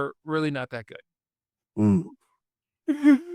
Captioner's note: laughs